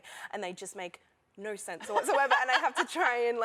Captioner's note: laughter